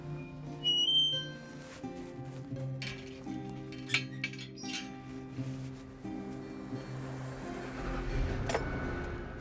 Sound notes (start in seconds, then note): 0.2 gates swings; 3.6 metal clanks